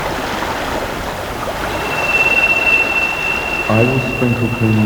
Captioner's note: running water continues